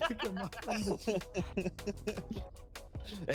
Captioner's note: laughs